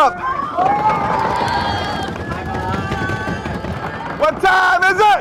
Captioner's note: stomping and cheering